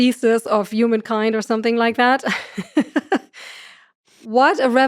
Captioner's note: laughs